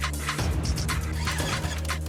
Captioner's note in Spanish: ruido al tratar de arrancar